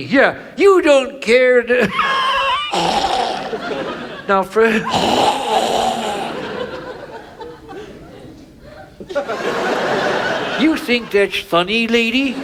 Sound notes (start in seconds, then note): 1.8 coughs; 9.4 audience laughs